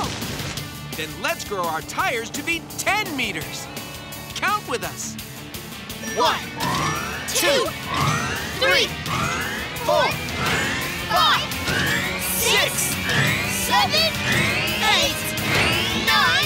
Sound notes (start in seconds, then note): none